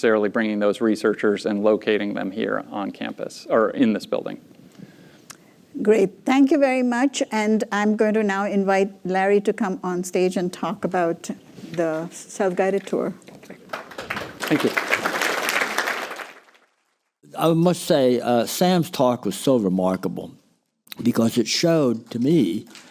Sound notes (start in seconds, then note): 16.6 applause